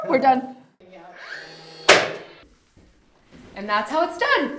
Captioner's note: nail gun popping